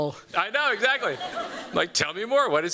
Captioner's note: laughter